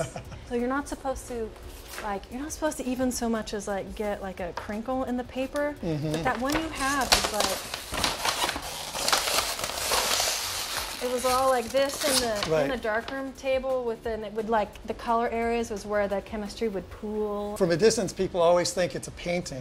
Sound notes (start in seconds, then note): 6.1 paper crinkling